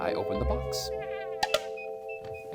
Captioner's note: tick-tock!